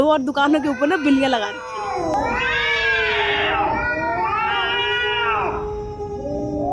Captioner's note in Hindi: चीखने की आवाज़